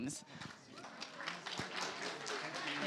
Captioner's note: applause